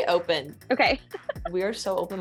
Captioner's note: laughing